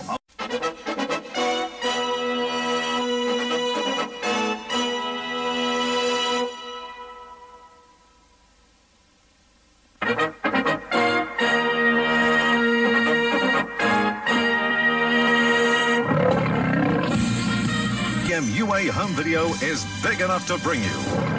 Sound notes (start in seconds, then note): 0.3 retro fanfare plays; 10.0 retro fanfare playing; 15.6 Leo the Lion roars; 21.0 Leo the Lion purring